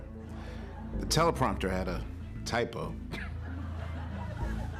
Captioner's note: scoffs